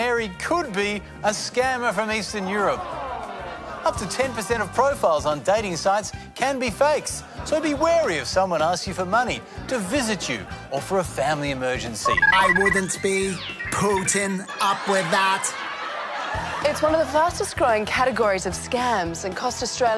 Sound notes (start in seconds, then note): 14.4 laughter